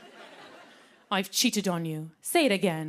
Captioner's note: laughter; English accent